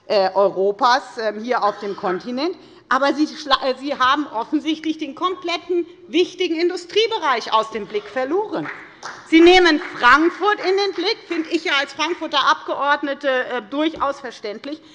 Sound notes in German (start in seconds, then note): 7.8 Beifall bei der FDP